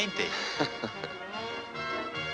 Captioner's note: laughs